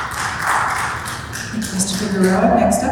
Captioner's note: applause